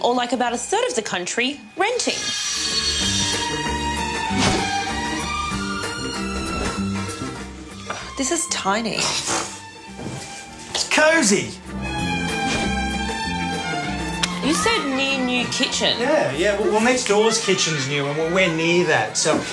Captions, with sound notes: or like about a third of the country, renting. This is tiny. (Scoffs) It's cosy. You said 'near-new kitchen'. (Children yelling) Yeah, well, next-door's kitchen's new and we're near that, so...